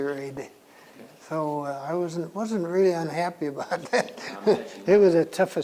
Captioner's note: laughs